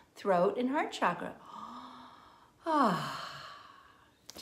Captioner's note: inhaling and exhaling